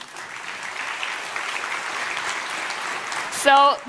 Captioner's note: applause